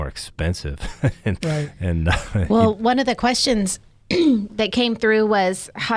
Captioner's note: chuckles; clears throat